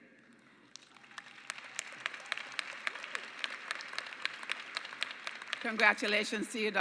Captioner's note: applause